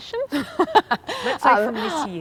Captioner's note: laughs